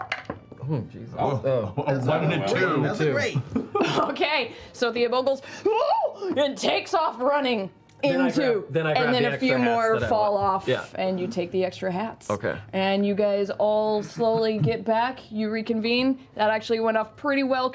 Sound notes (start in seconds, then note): 5.6 yelps